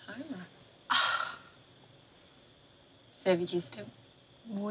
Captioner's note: scoffs